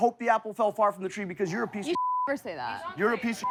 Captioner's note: beep